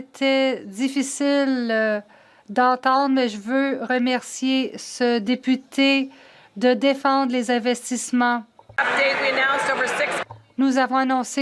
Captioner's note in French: voix de l'interprète